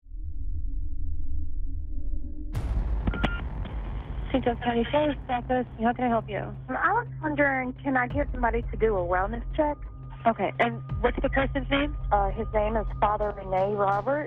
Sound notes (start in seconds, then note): 1.6 ominous music playing; 3.1 phone beeping